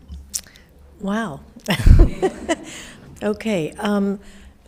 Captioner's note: laughs